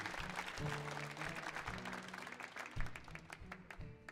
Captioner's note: audience applauds